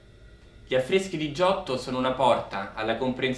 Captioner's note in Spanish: Hablando en italiano